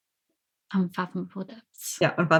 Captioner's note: laughs